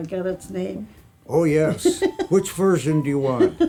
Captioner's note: laughs